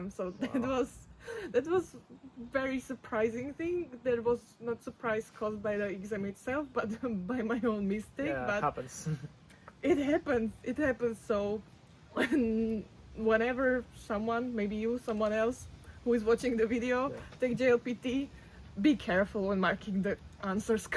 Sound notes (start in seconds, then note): 8.9 laughs; 12.2 laughs